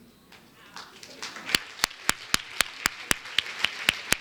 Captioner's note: everyone applauds